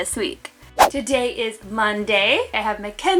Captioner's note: air whooshing